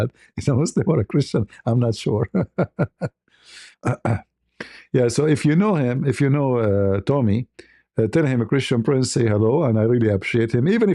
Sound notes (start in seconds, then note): 2.0 ketawa; 3.6 berdehem